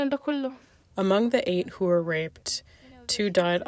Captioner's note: through translator